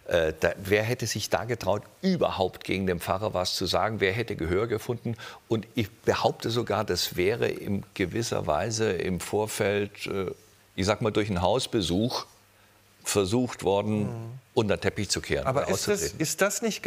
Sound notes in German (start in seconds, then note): none